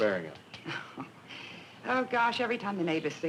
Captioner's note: chuckling